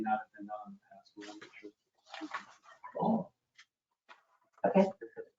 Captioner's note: speaking distantly